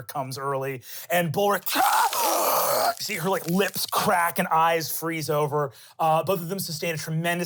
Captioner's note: roars